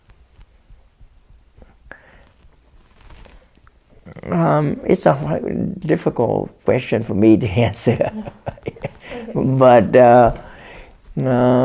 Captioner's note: laughs